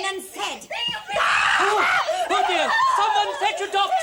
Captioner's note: screams